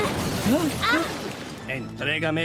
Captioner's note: blast; shrieks